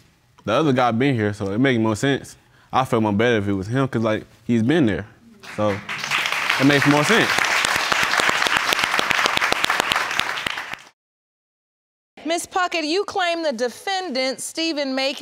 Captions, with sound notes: The other guy being here. So it make more sense. I'd feel more better if it was him cause like, he's been there. So... That makes more sense. (AUDIENCE APPLAUDING) Ms. Puckett, you claim the defendant Steven Macon